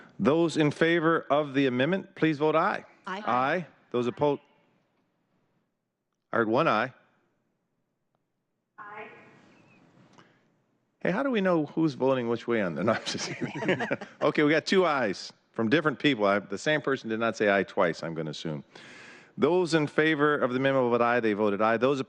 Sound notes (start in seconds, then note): 12.8 laughter